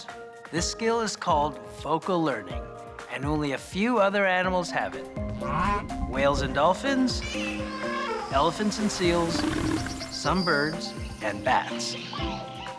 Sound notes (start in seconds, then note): 7.2 animals groaning, squealing; 7.5 animals trumpeting, roaring